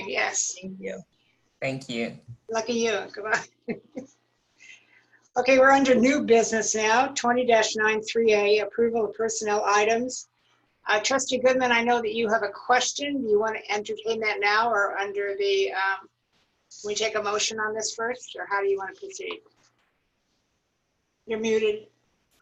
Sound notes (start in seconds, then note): 3.3 laughter